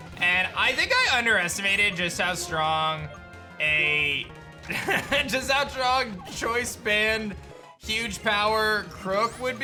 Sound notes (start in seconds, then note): 4.6 soft laughs